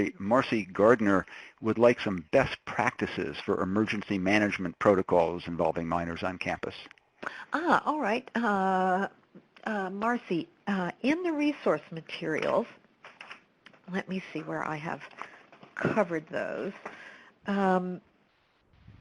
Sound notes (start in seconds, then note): 7.7 voiceover